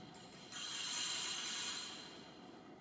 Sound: ringing of priest's staff

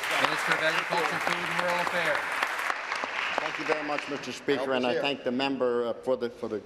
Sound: applause

